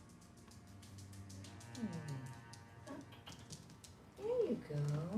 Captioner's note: claws scratching